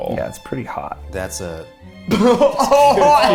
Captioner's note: laughs